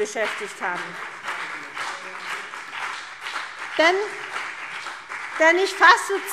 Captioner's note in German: Beifall CDU und BÜNDNIS 90/DIE GRÜNEN